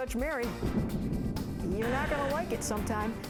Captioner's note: gavel pounds